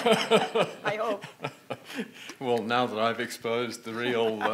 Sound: laughs

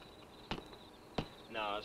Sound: flashlight thudding

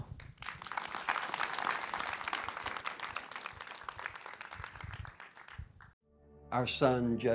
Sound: applause

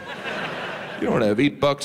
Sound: audience laughs

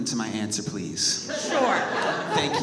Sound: audience laughs

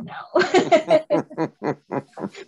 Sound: laughs

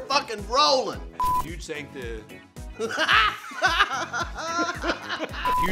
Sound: laughs

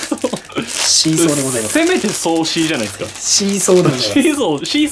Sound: laghter

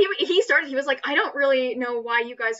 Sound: laughs

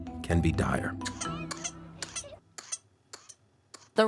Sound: coughing

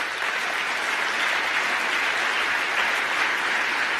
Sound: applause

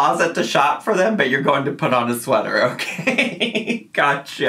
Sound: laughs

